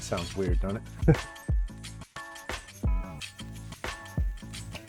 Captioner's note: laughing